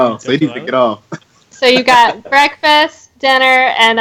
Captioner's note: laughing